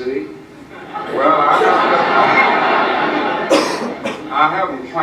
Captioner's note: audience laughs